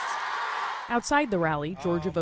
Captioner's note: cheering